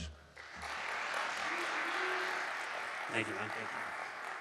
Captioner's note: audience applauding